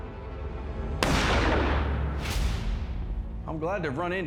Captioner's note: gunshot